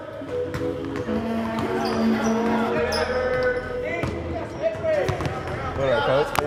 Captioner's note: people chattering; basketball thudding